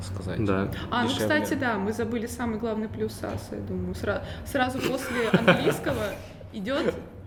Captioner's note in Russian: смеётся